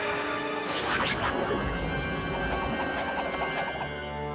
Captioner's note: whiffle!